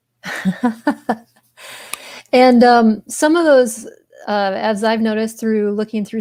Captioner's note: laughs